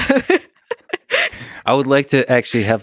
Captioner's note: laughing